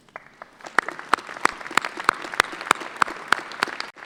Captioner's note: clapping